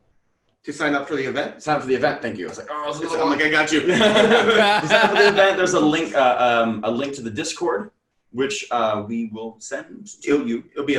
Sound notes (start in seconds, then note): 3.8 laughter